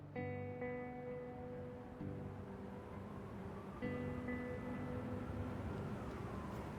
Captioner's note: soft music; cars passing